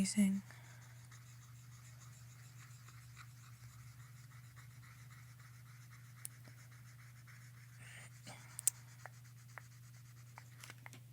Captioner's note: scratching